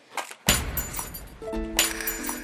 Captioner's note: smack